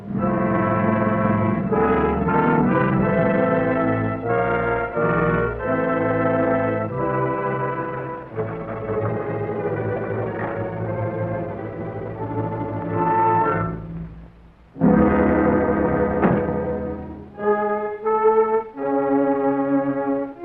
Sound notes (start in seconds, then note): 0.1 suspenseful music; 8.6 ominous music; 16.2 car door shuts; 17.5 dramatic music